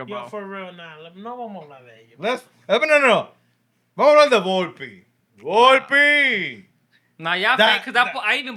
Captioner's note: speaking Spanish